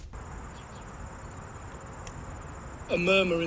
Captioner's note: nature Sounds